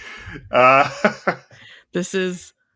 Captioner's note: nervous laughter